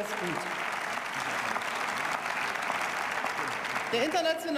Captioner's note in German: Beifall